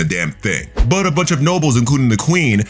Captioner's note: air whooshing